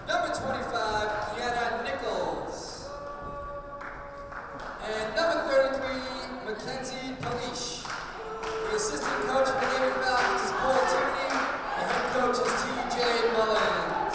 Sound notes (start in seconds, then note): 2.7 cheering; 8.1 cheering; 13.9 clapping